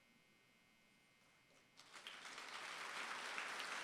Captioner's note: applause